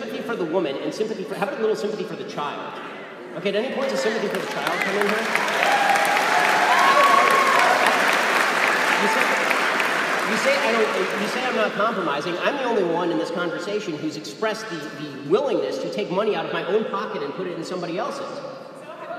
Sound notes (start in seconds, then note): 3.8 applause